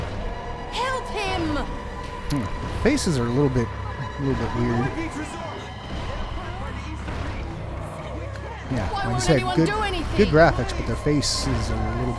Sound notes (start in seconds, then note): 5.0 survivors panicking and zombies banging on walls